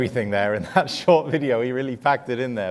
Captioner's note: laughs